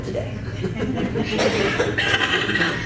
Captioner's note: chuckles